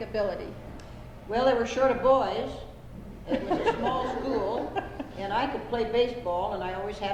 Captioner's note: laughter